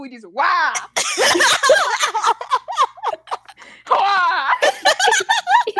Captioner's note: laughter